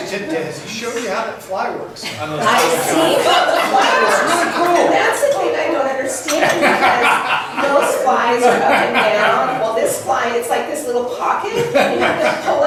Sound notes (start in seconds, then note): 0.3 voiceover; 2.5 laughs; 12.1 laughs